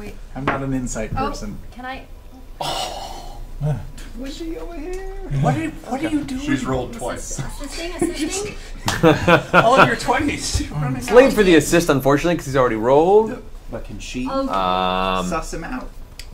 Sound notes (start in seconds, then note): 3.4 scoffs; 8.8 all laugh